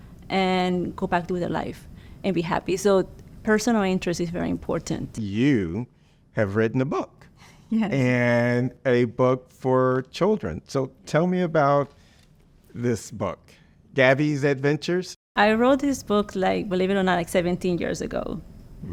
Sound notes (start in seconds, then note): 7.8 laughs